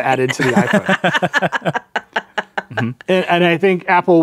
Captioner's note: laughing